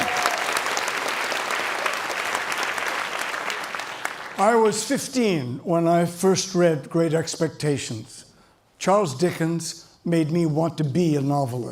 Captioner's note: cheering and Applause